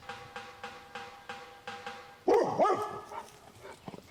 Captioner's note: hammering and barking